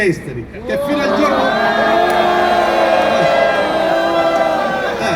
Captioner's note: uproar